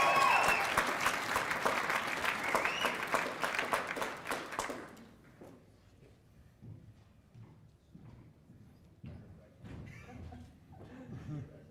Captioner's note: cheers and applause